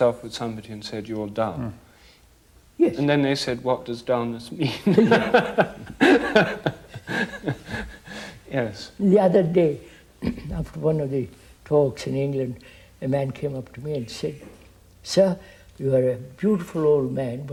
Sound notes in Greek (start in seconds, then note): 4.6 γέλια